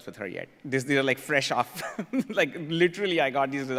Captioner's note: laughs